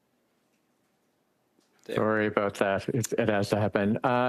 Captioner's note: speaking French